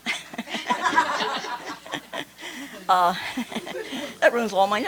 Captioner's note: laughter